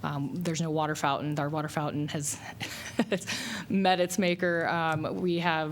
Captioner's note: laughter